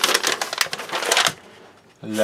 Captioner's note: paper crinkling